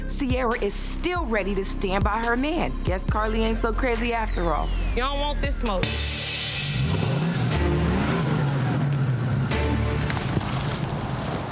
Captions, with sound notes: Sierra is still ready to stand by her man. Guess Karlie ain't so crazy after all. - You don't want this smoke. (suspenseful music) (motor revving)